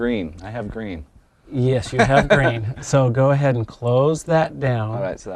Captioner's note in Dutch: gniffelt